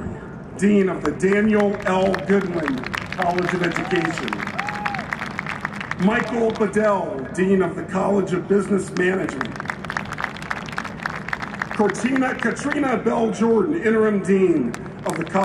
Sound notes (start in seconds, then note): 4.7 applause and cheering; 8.9 applause